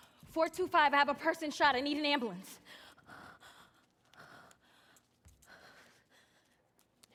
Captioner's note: panting